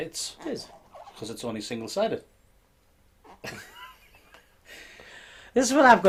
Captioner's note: laughing